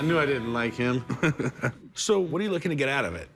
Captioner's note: laughs